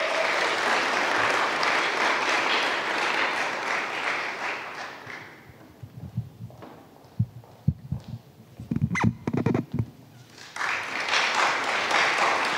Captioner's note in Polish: oklaski